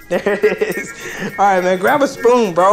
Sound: laughing

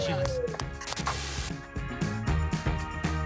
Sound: static

